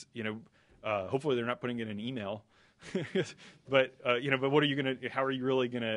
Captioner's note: laughter